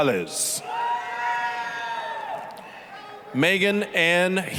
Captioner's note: applause, cheering